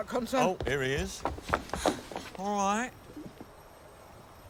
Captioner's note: pants